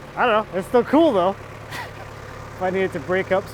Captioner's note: laughs